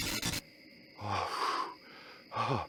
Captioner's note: glitch